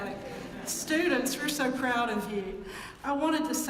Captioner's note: laugh